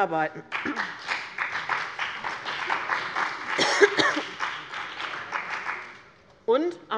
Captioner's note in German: Beifall bei dem BÜNDNIS 90/DIE GRÜNEN und der CDU